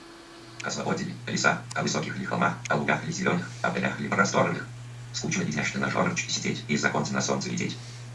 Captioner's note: Speech synthesizer reads Velimir Khlebnikov's futurist poems very fast